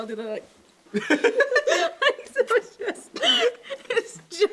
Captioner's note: laughs